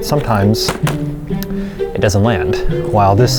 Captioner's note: plastic bottle flap sound